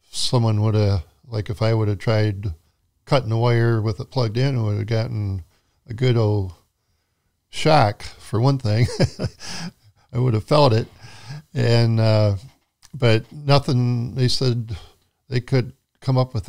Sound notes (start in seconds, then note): 8.7 chuckles